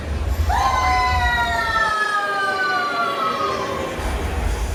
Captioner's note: Mickey & Minnie Scream